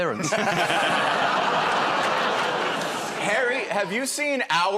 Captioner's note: laughter